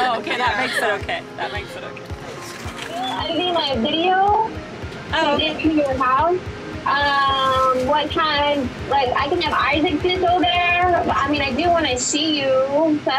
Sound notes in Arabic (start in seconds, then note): 3.0 امرأة على الهاتف